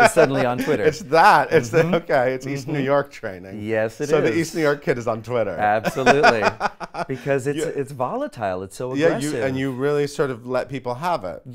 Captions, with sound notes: suddenly on Twitter. - (laughs) It's that. It the okay, east New York training. - Yes, it is. - So the East New Work kid is on Twitter. - Absolutely, because it's volatile. It's so aggressive. - Yeah, and you really sort of let people have it.